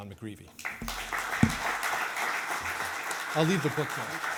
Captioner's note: audience applauding